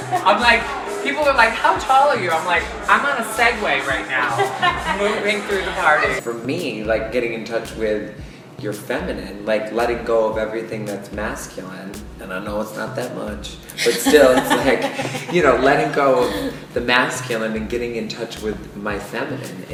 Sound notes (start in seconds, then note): 11.9 sassy voice; 13.7 laughs